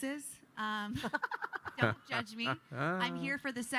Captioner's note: laughing